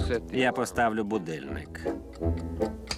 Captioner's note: ticking